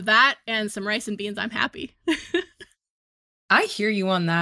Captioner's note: chuckles